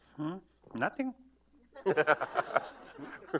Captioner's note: laughter